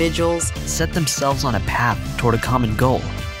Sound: manly Voice

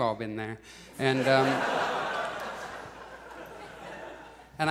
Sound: audience laughs

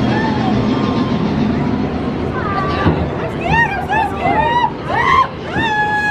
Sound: train chugging; people whooping

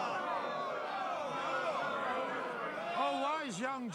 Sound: crowd clamoring

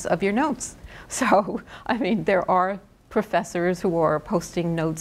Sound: laughs

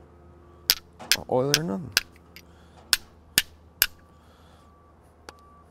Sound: metal clanging

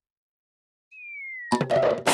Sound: thuds

